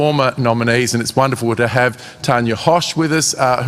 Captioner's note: none